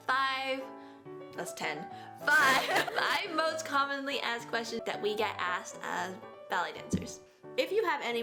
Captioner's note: laughs